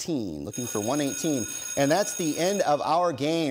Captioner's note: bell ringing